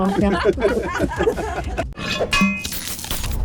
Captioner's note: laughter